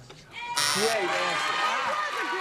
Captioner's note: wrong buzzer